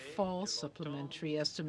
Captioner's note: speaking French